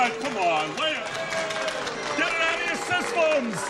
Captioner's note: booing